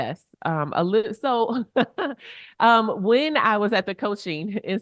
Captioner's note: chuckles